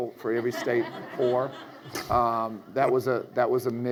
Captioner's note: audience laughs